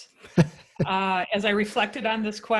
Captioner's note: laughing